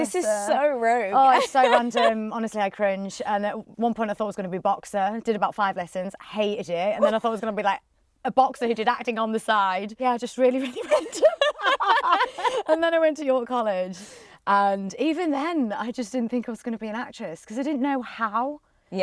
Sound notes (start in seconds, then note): 10.8 laughs